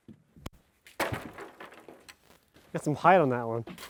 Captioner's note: wood rattling